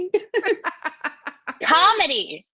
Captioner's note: laughter